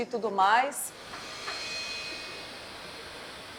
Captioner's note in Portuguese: secador de cabelo